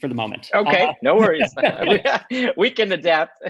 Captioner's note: chuckles